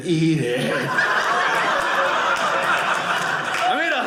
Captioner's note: audience laughing